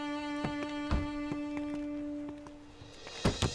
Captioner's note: Car door opens; Car door closes